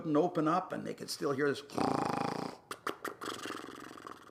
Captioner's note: snoring